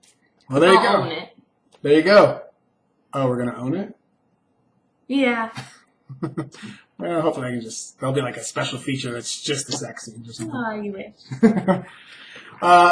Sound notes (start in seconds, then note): 0.0 laughs; 6.1 laughs; 11.3 laughs